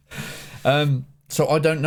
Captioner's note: laughing